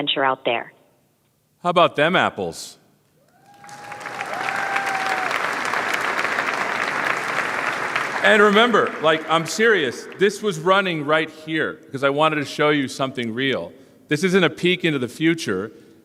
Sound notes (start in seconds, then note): 6.5 cheers and applause